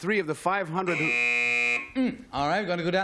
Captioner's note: buzz